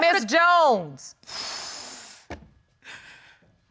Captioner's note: exhales